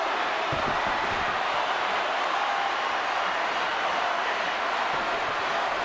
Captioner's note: audience cheering